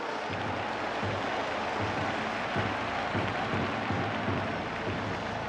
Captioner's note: crowd buzzing